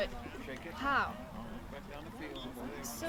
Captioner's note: crowd Ambiance